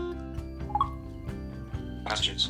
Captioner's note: iPhone beeps